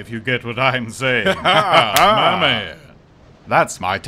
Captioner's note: laugh and squish noise